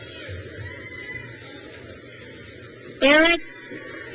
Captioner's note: crowd cheers